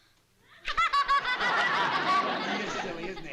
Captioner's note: laughs